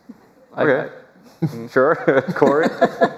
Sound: laughter

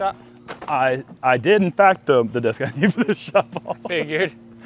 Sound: laughs

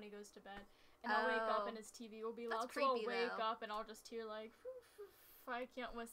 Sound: tries to do the whistle tune but fails

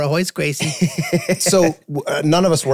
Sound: group laughing

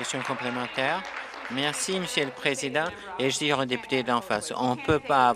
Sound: applause

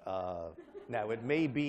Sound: laughter

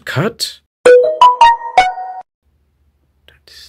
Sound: Samsung notification sound effect

